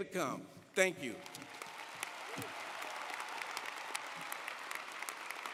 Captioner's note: audience applauding